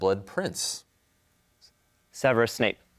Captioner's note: team whispering